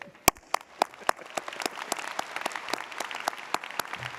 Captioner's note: audience applauding